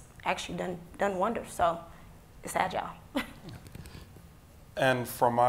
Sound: giggles

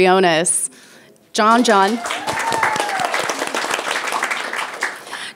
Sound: people applauding

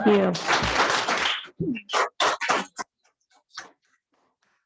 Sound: audience applauds

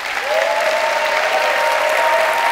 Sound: applause

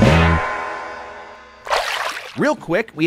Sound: water splashing

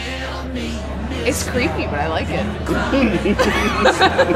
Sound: laughter

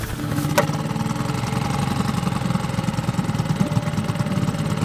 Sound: boat motor roaring

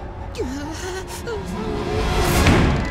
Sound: whimpering

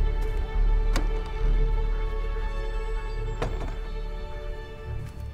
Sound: door opens and closes

